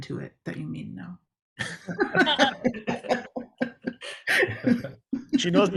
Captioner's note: group laughter